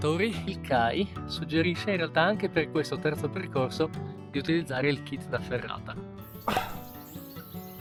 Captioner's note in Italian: risate